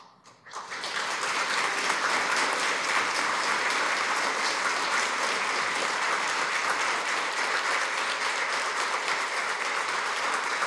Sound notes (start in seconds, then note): 1.0 applause